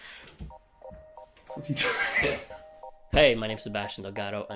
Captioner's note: chuckling